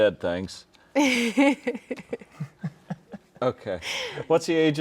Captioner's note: all laughing